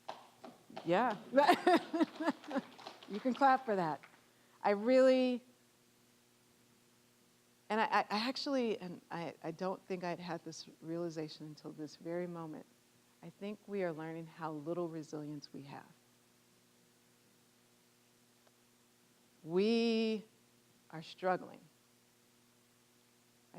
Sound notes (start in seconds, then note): 0.8 scattered clapping; 1.3 laughing; 1.6 applause